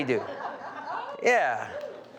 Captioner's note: audience laughing